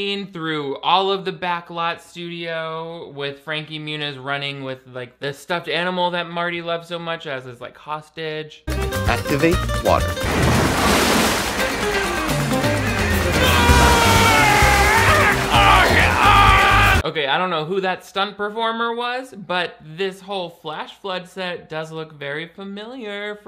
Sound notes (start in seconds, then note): 13.8 yelling